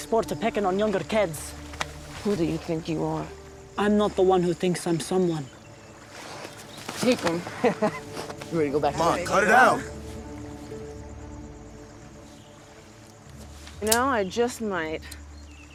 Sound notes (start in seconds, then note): 7.5 laughs